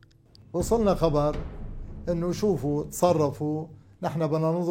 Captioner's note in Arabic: العربية، اللغة المنطوقة